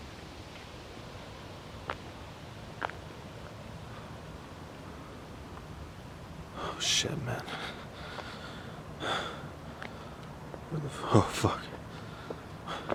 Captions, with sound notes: [Gasp] Oh s–t man Oh f–k